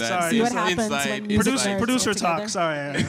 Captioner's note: chuckle